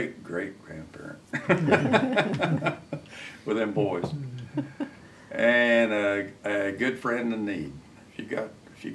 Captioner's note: laughs